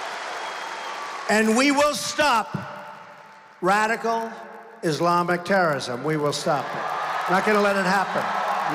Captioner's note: applause